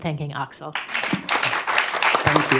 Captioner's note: applause